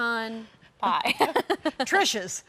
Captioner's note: laughs